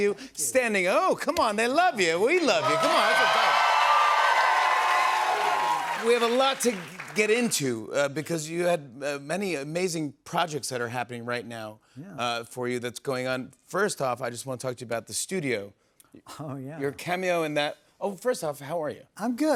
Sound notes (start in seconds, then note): 2.4 cheering